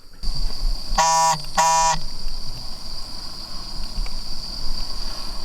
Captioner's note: phone beeping